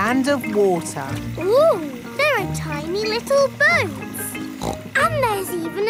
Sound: snorts

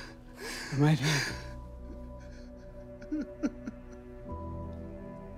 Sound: sobbing

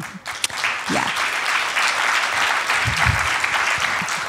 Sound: audience applauding

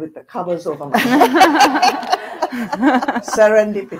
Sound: audience laughing

